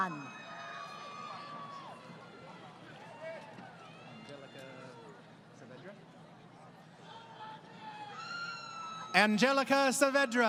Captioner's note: crowd Cheering